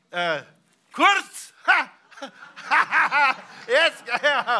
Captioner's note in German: lacht